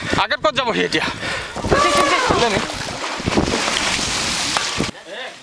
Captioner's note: speaking in foreign language